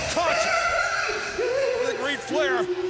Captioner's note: crying